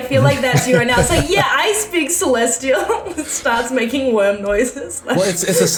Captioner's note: starts making worm noises